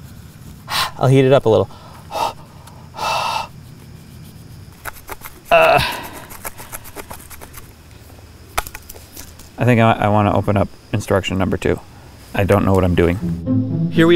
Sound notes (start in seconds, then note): 0.1 blows; 5.5 groans